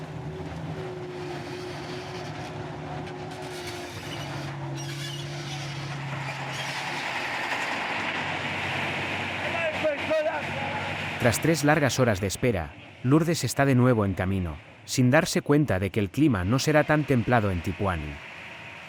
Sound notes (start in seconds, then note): 3.8 engine rumbling; 9.9 people chattering